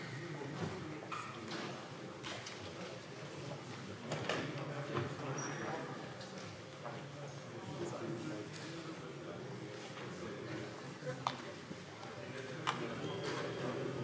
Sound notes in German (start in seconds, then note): none